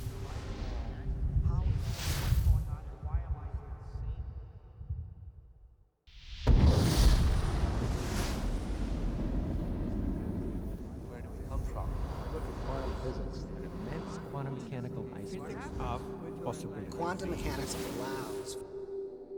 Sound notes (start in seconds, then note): 6.5 explosion